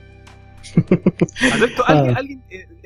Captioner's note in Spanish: risas